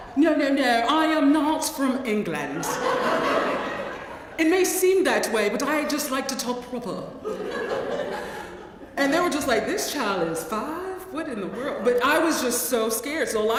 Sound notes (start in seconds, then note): 2.6 laugh